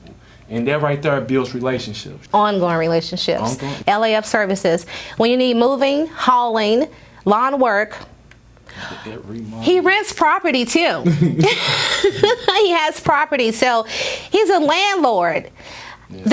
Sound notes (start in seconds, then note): 10.9 laughing